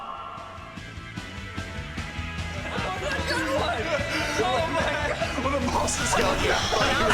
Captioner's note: people chattering; upbeat music